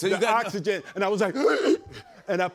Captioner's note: gasps